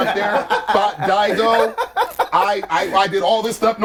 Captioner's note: all laughing